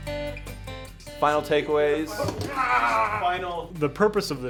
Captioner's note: background laughter